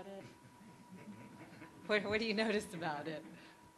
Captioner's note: audience laughs